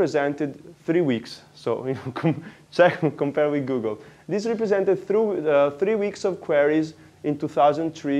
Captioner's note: laughs